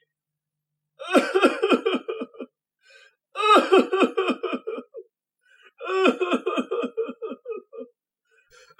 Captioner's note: Scrooge sobs